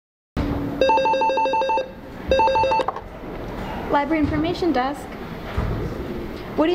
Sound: phone rings

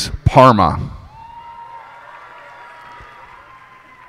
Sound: cheers and applause

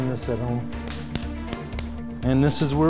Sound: hammering

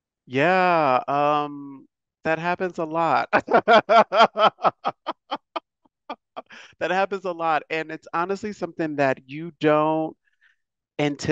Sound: laughs

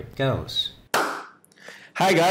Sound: clapping once

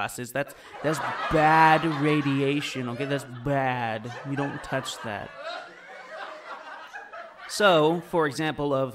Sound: audience laughter; audience laughter

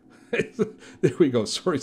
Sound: laughing

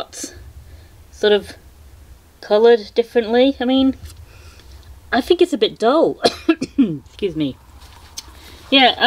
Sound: coughing

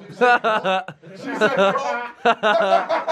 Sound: laughing

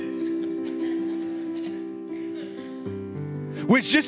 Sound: congregation laughs

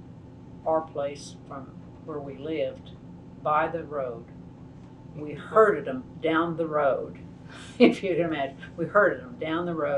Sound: laughs

